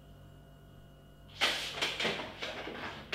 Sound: chair creaks

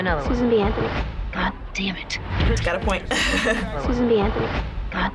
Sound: chuckles

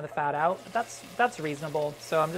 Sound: sizzling

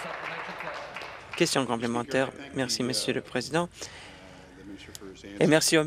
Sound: applause

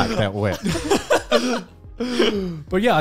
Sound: laughing

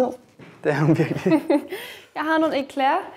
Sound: chuckles

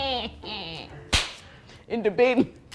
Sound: laughs; claps

